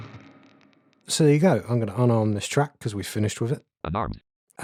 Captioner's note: automated voice